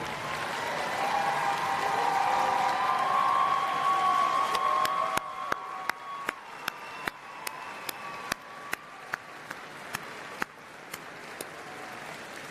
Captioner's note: applause and Cheering